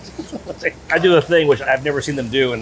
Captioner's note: chuckling